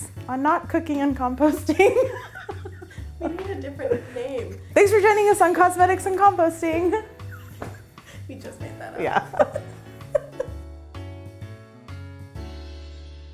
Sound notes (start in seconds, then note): 1.7 laughing; 7.0 laughing; 10.6 bouncy music